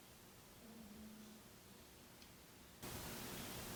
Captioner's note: ghostly Voice